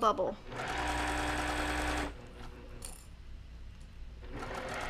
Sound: machine whirring

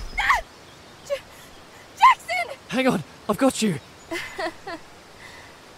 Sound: weak laugh

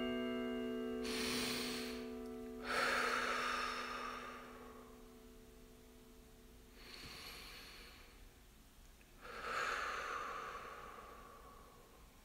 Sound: breathing

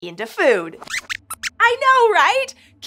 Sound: squeaks squeaks excitedly

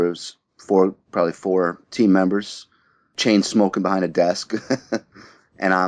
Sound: laughs

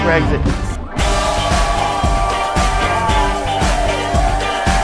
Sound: guests cheers

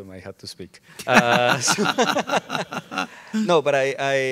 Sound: all laughing

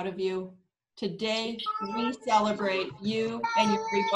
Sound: people chattering

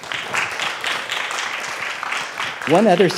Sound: students clapping

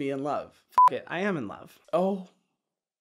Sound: beep

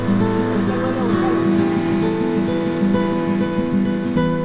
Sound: boat motor; gentle guitar strumming

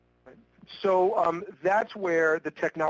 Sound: voiceover

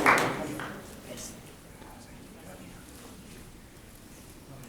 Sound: people chattering softly

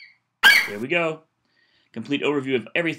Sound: FlightCheck eagle screeches

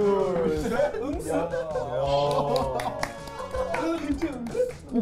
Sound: claps first

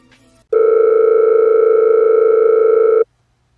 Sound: phone Ringing

